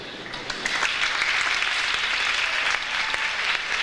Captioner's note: audience applauds